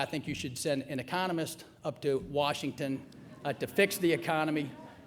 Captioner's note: murmuring